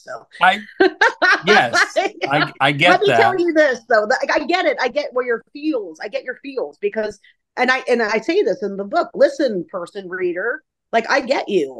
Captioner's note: laughing